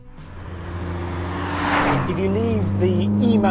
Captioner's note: engine rumbles